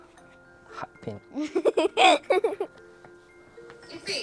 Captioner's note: laughs